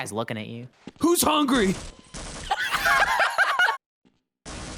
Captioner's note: both laugh